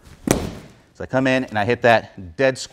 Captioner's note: mat slams